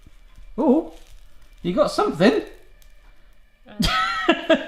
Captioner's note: laughs